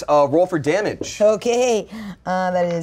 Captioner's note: none